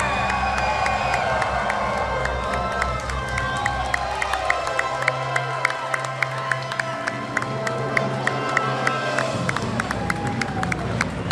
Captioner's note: crowd cheering